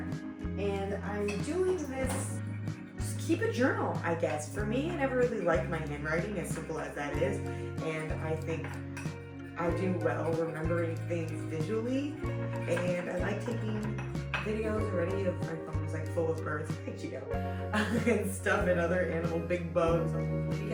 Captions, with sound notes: And I'm doing this to keep a journal, I guess. For me, I never really liked my handwriting. As simple as that is. And I think I do well remembering things visually. And I like taking videos already-- my phone is like full of birds. Hi Cheeto. [laugh] and stuff and other animals-- big bugs!